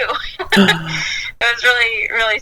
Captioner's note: gasps